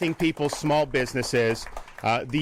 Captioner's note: applause